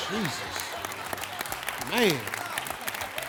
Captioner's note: audience laughing